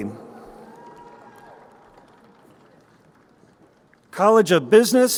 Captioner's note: crowd cheering